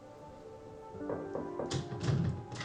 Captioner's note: knocking on door